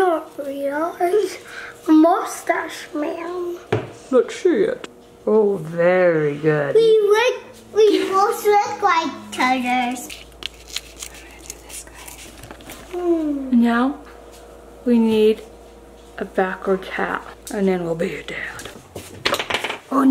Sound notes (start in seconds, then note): 12.0 whispers